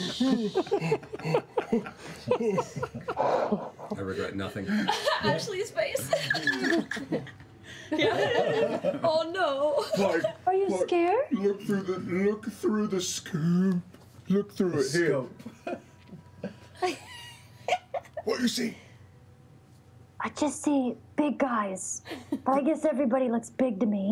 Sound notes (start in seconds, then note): 5.7 laughing